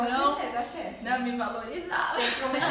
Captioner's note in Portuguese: risos